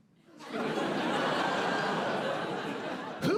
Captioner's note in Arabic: ضحك